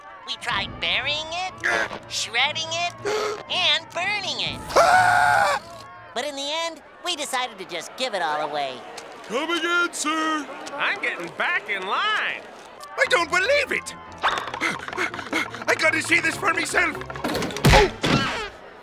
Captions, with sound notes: We tried burying it, shredding it, and burning it. [screaming] But in the end, we decided to just give it all away. Come again sir! I'm getting back in line! I don't believe it. I gotta see this for myself. Uff!